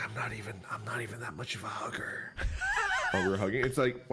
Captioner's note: wheezes